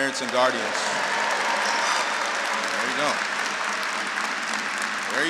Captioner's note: audience cheering